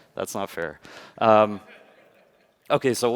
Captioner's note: laughter